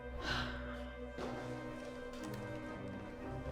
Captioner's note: Claire sighs